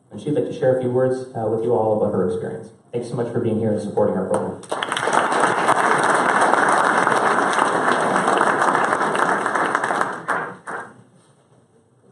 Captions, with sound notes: She'd like to share a few words with you all about her experience. Thank you so much for being here and supporting her. [applause]